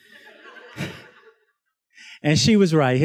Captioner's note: students laughs